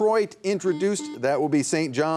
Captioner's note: buzzer buzzing